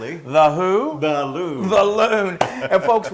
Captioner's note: laugh